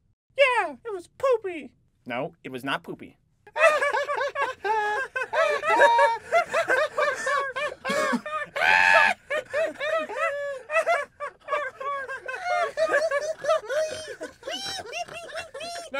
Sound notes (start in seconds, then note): 3.5 laughter